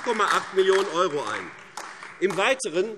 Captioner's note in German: Beifall AfD